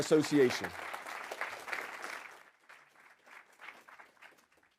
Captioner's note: audience clapping